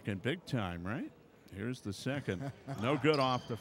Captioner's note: laughing